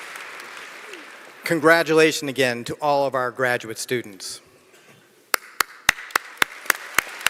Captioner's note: applause